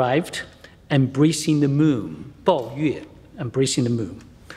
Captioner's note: speaks foreign language